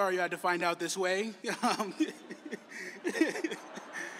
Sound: laughter

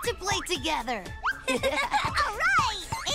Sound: giggling

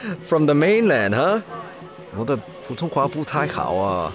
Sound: in Mandarin

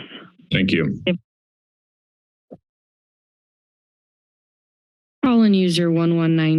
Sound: silence

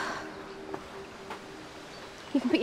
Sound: sighs

